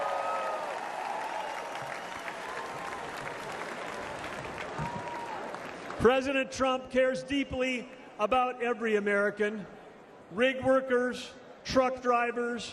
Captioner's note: applause